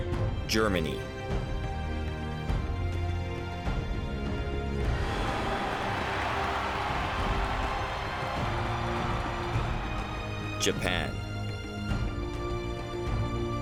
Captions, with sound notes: Germany. (cheering) Japan.